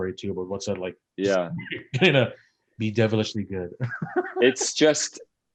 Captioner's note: laughs